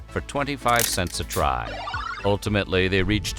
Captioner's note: game sound effect